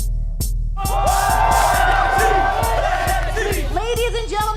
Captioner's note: crowd cheering